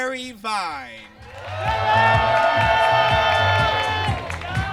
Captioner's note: audience cheers